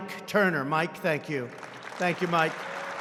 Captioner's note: applause